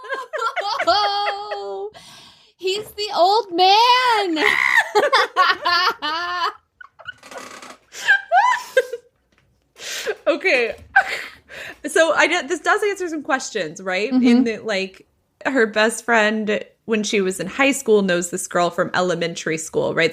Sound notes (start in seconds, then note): 7.0 screeches; 9.3 laughing